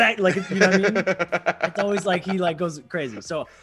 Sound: laugh

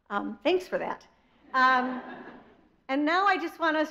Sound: audience laughs

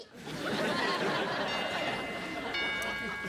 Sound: doorbell rings

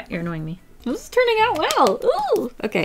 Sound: claps, excited squeal

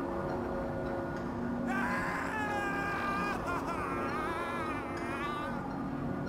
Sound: scream

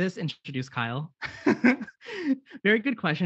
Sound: laughs

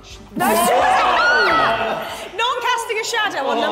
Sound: Sidemen yell

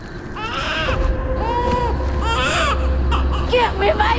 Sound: baby crying

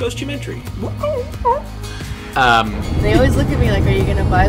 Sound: imitating record scratching

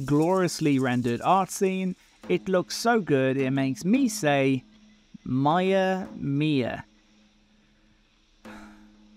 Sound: sigh

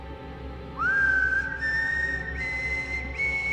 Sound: whistling

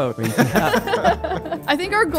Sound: everyone laughing amusingly

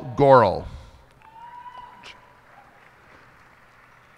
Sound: cheers and applause

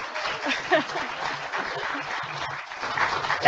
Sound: applauding

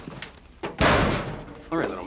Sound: locker door slams

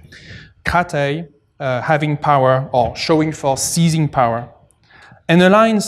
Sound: non-english

